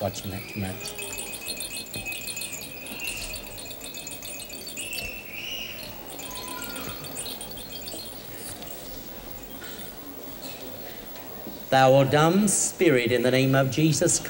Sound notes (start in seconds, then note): 0.0 shaking rattle